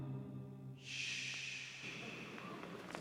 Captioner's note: shushing